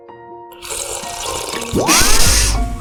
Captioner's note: sips; mystical sound & sound of spewing tea